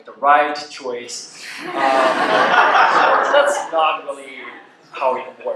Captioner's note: laughter